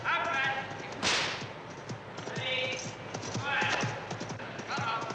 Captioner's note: whip cracking